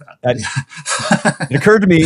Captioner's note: both laughing